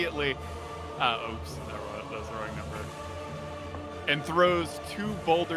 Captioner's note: mumbles